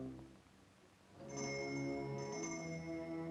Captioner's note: bell rings